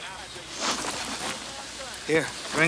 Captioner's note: chain clinks